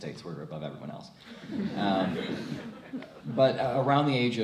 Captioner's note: crowd laughs